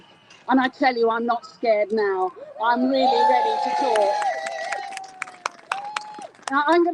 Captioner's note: crowd Cheers